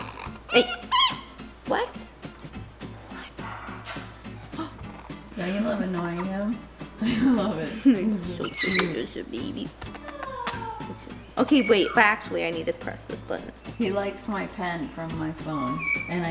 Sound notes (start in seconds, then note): 0.0 parrot chirps; 9.7 lips smacking